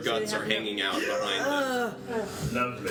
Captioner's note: sounds of disgust